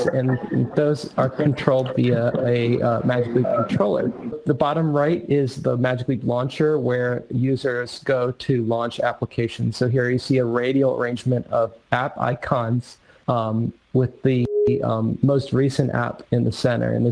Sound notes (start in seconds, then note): 3.5 audio echoing